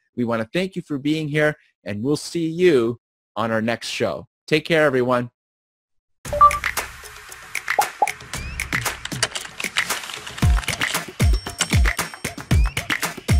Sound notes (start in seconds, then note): 6.3 graphic beeps; 8.8 keyboard clicking; 10.4 upbeat music